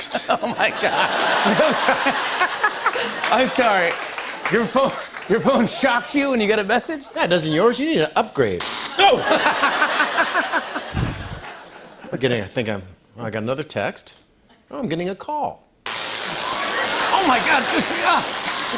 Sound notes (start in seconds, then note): 0.0 laughter; 8.6 electricity zaps; 9.0 laughter; 15.8 electricity zapping